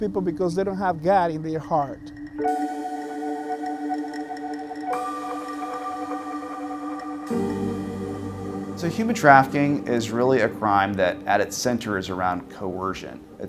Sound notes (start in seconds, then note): 2.5 gentle dramatic music; 2.5 traffic humming